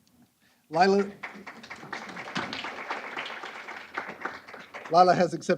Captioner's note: applause